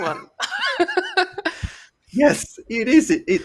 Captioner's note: laughter